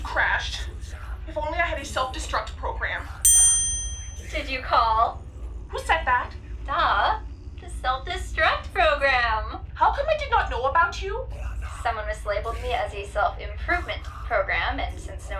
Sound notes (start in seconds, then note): 3.2 ding